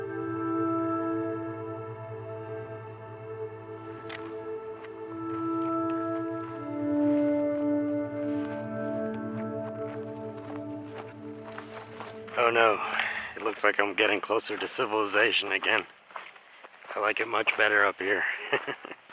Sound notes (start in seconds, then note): 0.2 slow soothing music continues; 10.1 footsteps in gravel